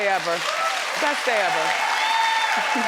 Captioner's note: crowd claps